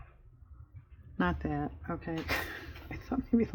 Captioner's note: laughs